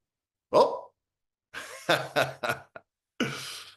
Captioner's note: laughs